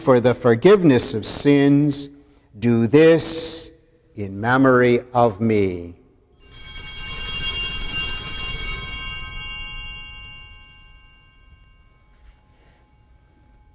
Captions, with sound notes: FOR THE FORGIVENESS OF SINS. DO THIS IN MEMORY OF ME. [BELLS RINGING]